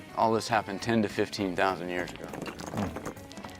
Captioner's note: rocks tumbling